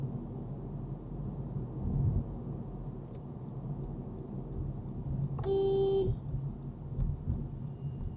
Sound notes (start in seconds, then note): 5.4 beeep